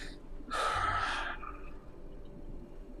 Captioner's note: sighs